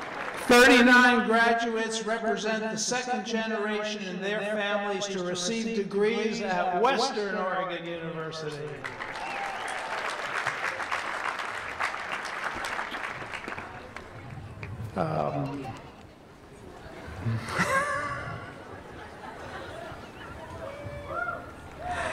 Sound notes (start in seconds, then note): 8.6 applause; 16.8 laughs